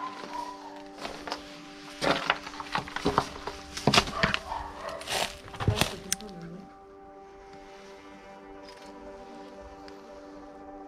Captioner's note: dog barking